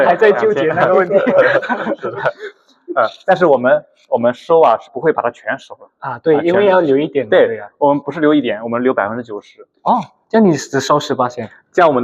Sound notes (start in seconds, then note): 2.7 laughs